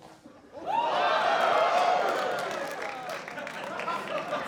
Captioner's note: cheering and applause